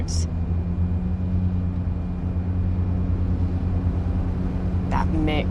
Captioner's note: rumble of engine